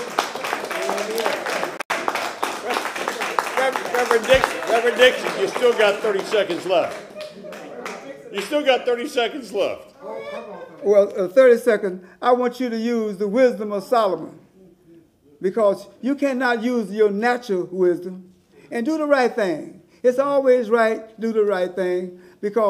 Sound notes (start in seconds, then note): 2.4 applause